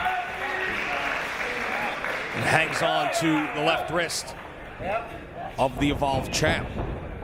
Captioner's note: applause